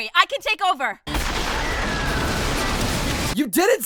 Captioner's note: more lasers and explosions